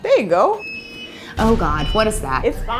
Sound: beeping noise

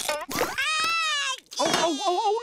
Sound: crying

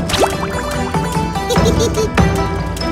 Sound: giggling

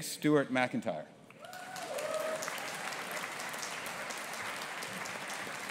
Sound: audience applauding

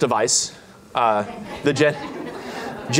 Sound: laughter

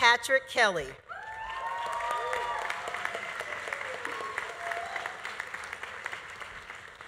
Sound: audience cheering; audience applauding

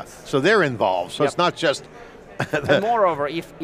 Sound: chuckling

